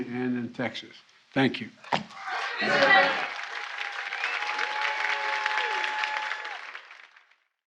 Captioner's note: applause